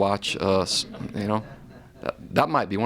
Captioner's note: chuckling